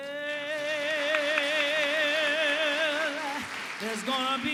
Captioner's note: applause